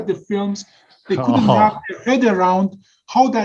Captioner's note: giggles